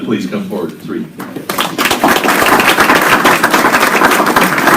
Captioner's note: applause